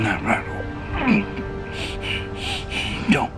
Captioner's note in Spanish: Respiración agitada